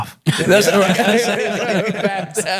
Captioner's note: laughing